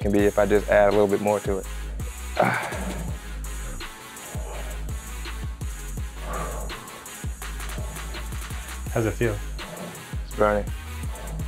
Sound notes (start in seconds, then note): 2.3 groans heavily; 4.4 breathes heavily